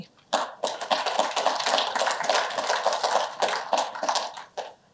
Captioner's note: applause